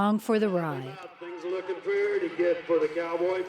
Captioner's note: voiceover